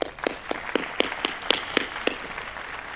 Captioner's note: applause